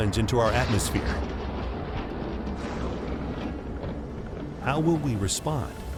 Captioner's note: explosion booming